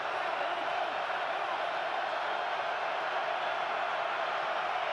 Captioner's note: cheers